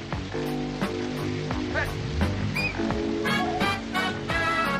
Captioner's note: whistles